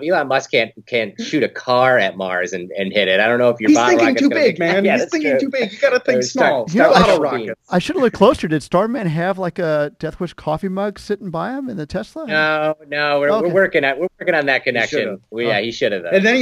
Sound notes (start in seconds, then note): 8.1 laughing